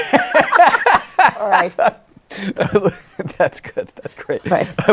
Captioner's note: laughing